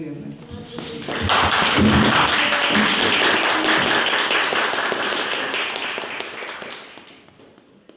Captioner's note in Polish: oklaski